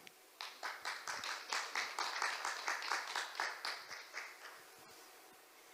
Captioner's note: applause